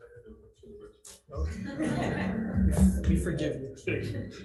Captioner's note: laughing